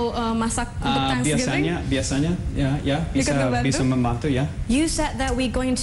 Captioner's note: non-english speech; non-english speech